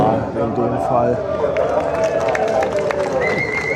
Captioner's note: applause